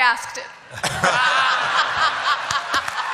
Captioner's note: laughter; applause